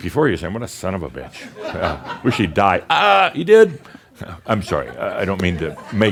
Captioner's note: some chuckles